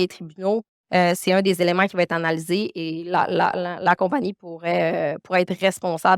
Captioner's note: continues speaking French